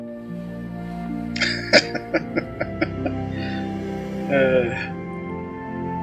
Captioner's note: laughing